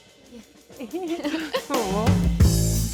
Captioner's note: Elle and Jenna giggling